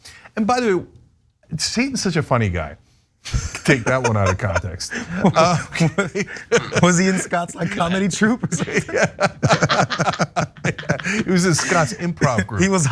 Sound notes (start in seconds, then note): 3.4 laugh; 8.5 laugh